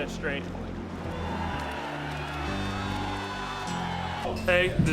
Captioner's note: crowd cheering